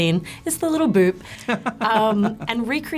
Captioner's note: laughs